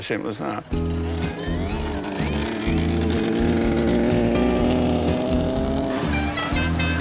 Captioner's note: motor running; horn beeping